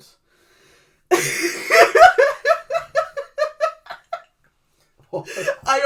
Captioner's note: laughs